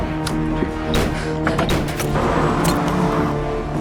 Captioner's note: guns firing